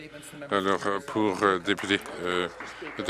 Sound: some Applause

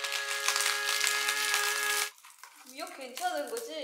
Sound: crushing

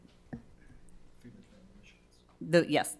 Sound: staff speaking faintly

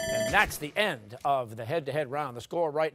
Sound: timer sounding

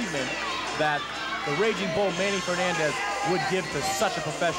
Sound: crowd yelling

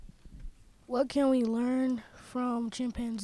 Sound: voiceover

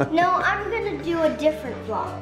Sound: laughing

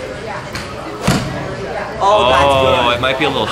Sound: thump

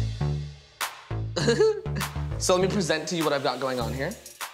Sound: laughing

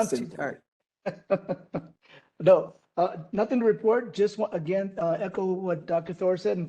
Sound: laughing

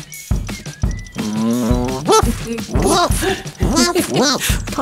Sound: Poc woofs, Kit giggles

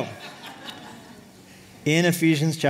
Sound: laughter

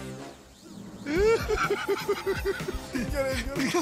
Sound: laughter

